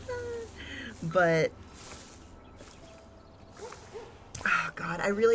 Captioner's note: laughs